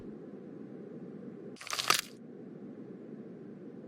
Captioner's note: crate rips open